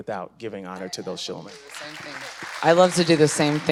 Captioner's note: crowd applauds